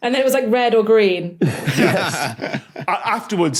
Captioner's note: group laughing